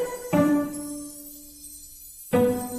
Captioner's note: chimes sparkling